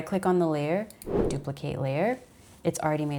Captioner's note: arrow whooshes